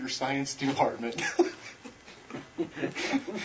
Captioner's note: laughs